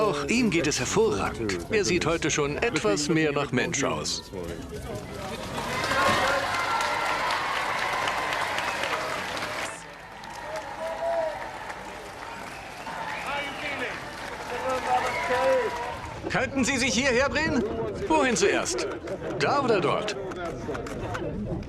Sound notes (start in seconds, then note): 4.7 crowd cheering